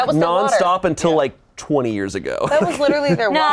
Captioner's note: laughs